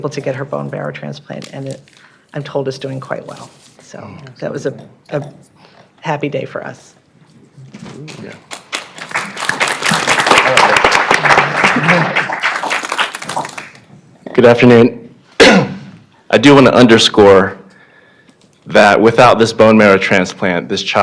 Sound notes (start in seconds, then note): 14.0 applause